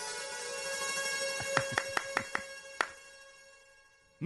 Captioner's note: applause